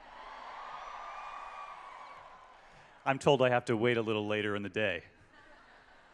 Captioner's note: cheering